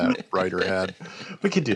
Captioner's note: laughter